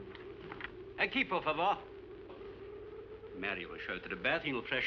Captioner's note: speaking spanish